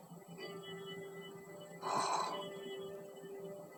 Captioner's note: fake snoring